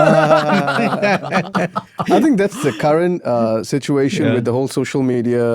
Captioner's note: laughter